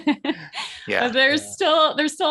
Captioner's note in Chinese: 笑声